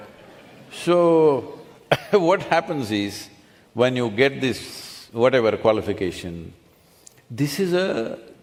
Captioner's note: laughs